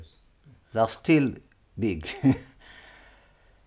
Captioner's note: laughs